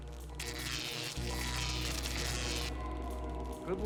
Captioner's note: zapping